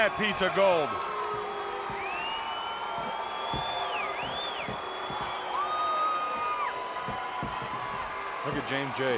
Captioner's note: crowd cheering